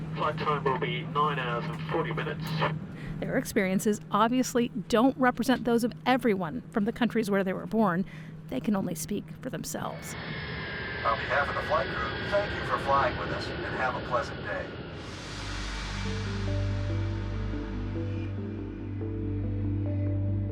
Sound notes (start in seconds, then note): 10.8 engine revving; 16.4 tranquil ambient music